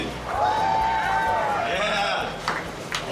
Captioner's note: cheering